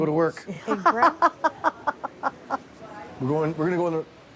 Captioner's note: women laugh